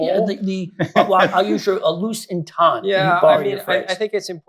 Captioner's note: laughter